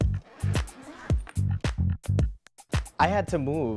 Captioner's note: funk music; zipper rasps